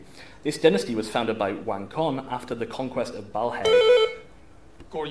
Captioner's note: buzz